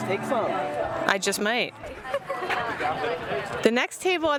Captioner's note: giggles